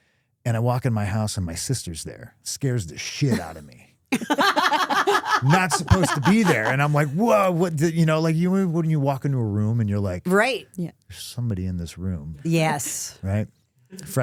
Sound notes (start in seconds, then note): 4.1 laughing